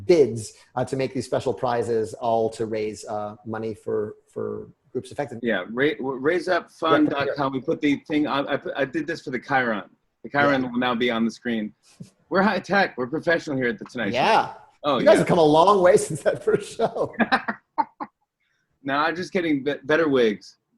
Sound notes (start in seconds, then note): 16.3 both laugh